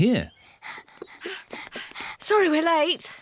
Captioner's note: panting